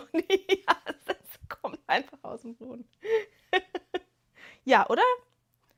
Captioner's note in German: gelächter